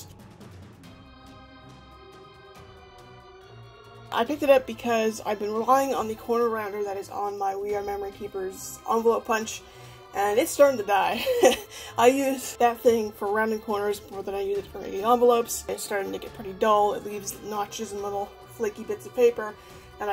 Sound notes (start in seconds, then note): 0.1 spooky music; 11.0 laughs